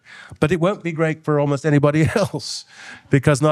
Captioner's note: laughing